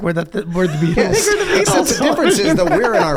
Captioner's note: all laugh